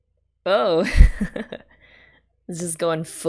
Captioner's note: laughs